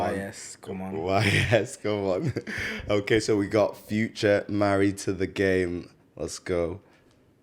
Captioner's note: laughs